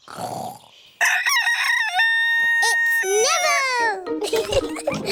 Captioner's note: neville crows; both giggling